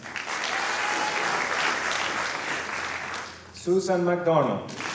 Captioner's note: applause